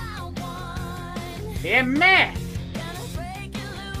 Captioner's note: imitating Gilbert Gottfried